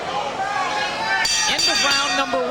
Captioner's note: bell rings twice